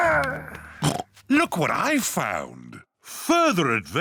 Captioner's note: oinks